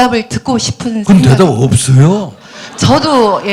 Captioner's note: audience Laughter